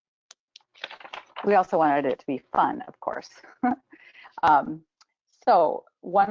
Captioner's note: chuckles